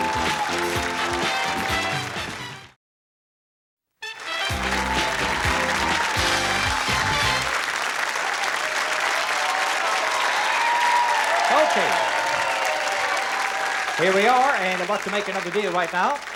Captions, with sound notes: -(theme music playing) -(applause, cheering) Okay! Here we are and about to make another deal right now.